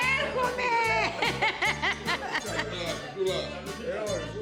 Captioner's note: speaking in greek